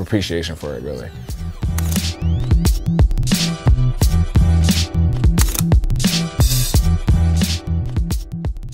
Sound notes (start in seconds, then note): 1.3 soulful beat; 5.3 camera shutter